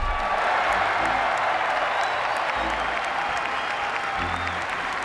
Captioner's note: people cheering and applauding